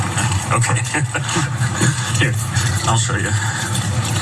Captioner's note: laugh